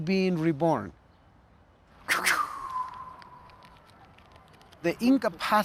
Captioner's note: blowing